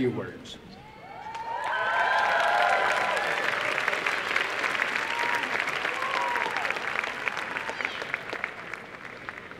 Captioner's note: applause and cheering